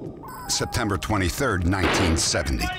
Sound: gunshot

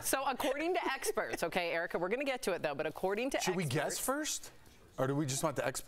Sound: laughter

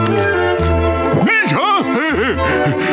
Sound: laughing

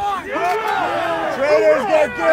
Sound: crowd cheering

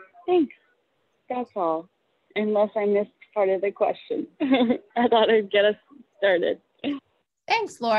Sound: laughter

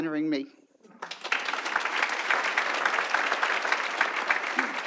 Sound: audience applauds

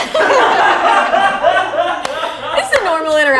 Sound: all laughing

